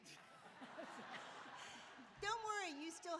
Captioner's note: laughing